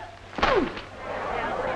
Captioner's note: paper thuds; group chattering